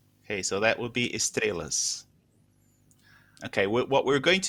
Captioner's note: speaking portuguese